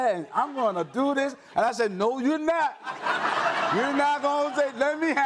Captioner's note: audience laughs